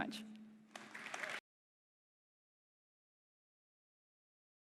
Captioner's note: applause